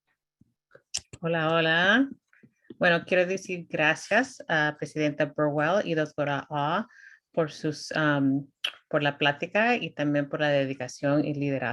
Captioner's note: speaking spanish